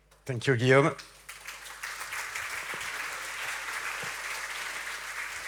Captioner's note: audience clapping